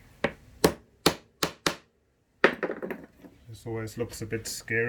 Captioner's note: hammer taps